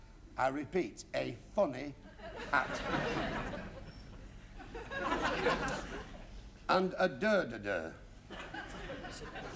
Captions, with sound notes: I repeat, a funny hat. (LAUGHTER) And a "dur-de-dur".